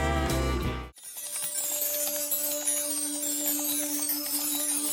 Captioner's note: chimes ringing